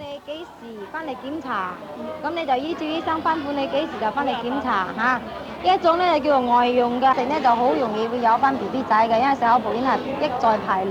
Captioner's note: speaking Cantonese